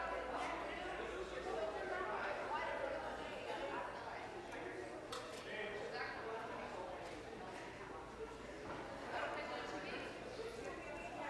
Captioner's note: conversation din